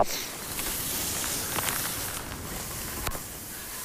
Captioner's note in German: Windrauschen